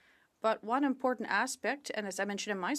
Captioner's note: speaking French